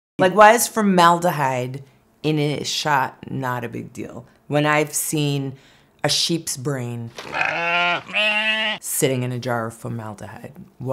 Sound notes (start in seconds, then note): 7.1 sheep bleating